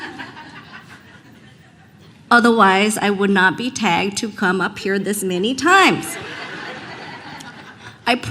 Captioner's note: laughter